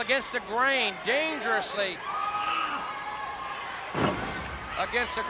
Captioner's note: wrestlers grunting; blows thudding